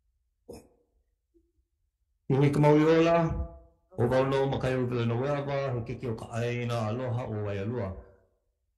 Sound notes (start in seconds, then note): 2.5 speaking Hawaiian